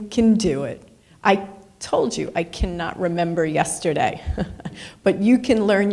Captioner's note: laughs